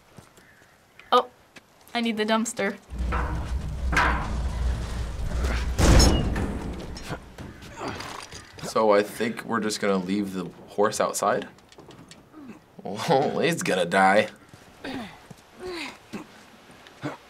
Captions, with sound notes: - Oh, I need the dumpster. (bang) (Joel grunts) - So I think we're just gonna leave the horse outside? Well, it's gonna die. (Ellie and Joel grunt)